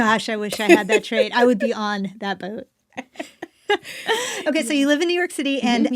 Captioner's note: laughs